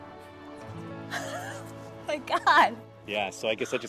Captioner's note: chuckles